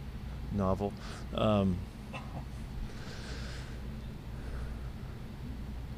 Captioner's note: laughing